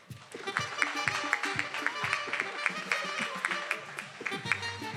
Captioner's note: attendees applauding